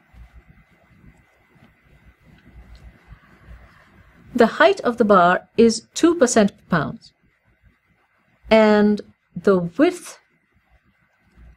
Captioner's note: pause